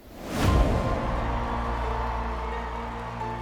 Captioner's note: audience cheering